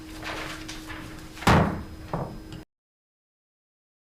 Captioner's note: gavel pounding